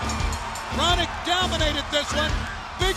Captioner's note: bell ringing